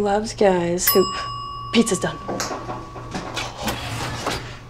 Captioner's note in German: Bing